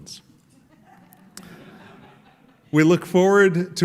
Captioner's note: laughter